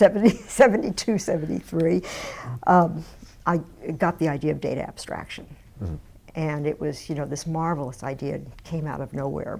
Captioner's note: laughs